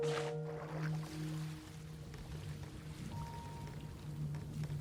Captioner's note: waves lapping